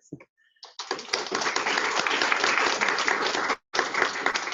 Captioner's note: applause